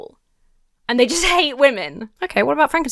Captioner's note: chuckles